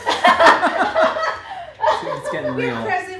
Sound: laughing

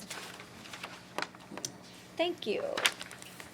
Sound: rustling

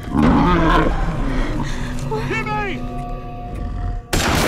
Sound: creature growling

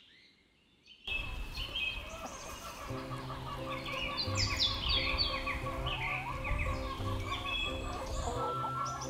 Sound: chickens clucking

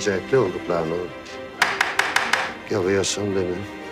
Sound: knocked on the door

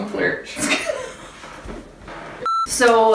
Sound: laughs

